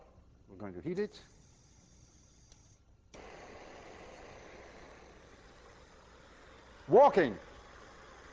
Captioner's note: torch hissing